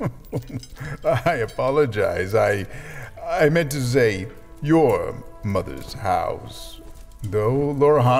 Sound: chuckle

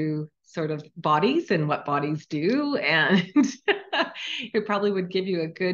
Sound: laughing

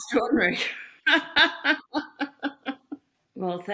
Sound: laughs

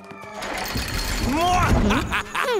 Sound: Tobor laughing

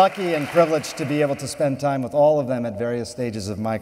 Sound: applause

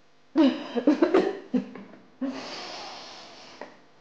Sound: woman coughs

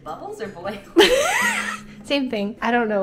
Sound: both laughing

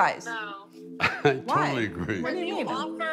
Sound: chuckling

